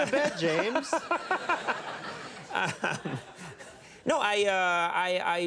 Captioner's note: Conan laughing; audience chuckles